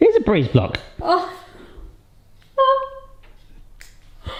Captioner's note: laughing